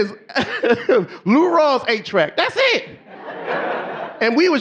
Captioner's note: laughs; audience laughing; audience laughing